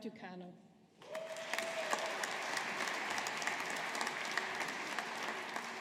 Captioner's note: audience applauding